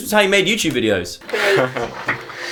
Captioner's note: laughs